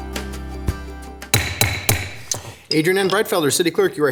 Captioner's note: gavel banging